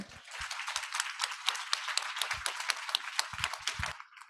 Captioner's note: audience applauding